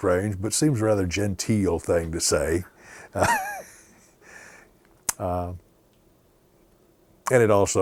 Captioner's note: laughter